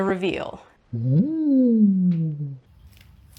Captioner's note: in a weird deep voice; forest floor crunches